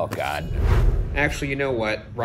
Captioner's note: whoosh